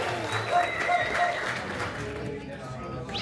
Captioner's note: a round of applause before the show starts